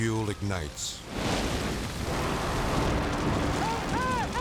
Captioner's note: fire whooshes